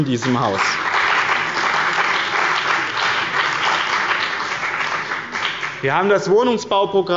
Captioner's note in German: Beifall bei dem BÜNDNIS 90/DIE GRÜNEN und der CDU